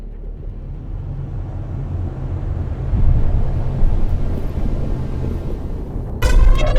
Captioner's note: hum of a portal